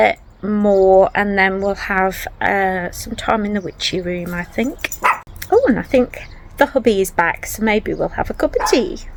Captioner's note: woof